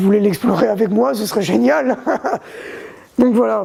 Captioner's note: laughs